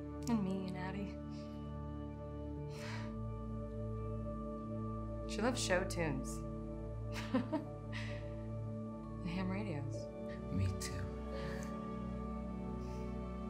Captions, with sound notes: And me and Addy. She loved show tunes. [Eileen Laughs] And ham radios. Me too.